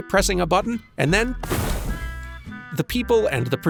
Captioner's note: poof